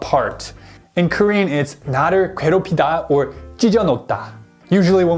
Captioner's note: speaking in Korean